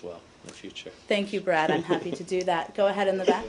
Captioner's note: laughter